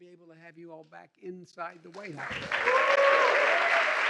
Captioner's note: applause